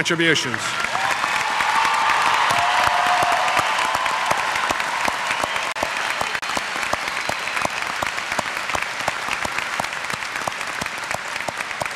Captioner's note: applause